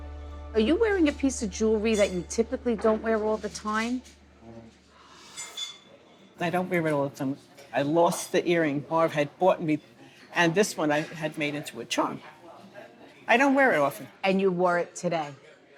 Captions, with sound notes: - Are you wearing a piece of jewelry that you typically don't wear all the time? [dishes clanking] - I don't wear it all the time. I lost the earring Marv had bought me and this one, I had made into a charm. I don't wear it often. - And you wore it today.